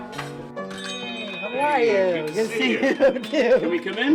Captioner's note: lively piano music; bell chiming